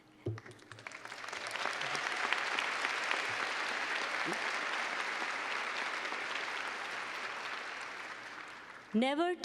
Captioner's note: clapping